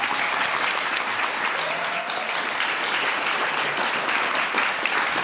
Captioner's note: audience clapping